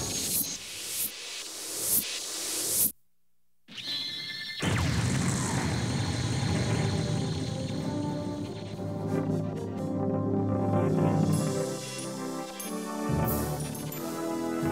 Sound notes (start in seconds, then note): 4.6 explosion shines; 8.8 triumphant music